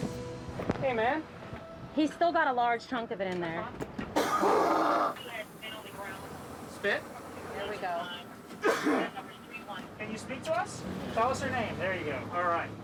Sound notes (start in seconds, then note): 4.1 patient coughs; 8.5 coughs